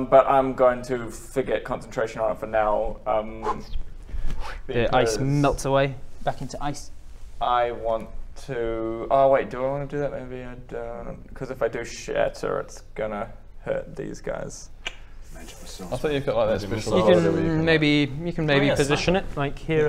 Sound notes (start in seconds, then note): 14.8 click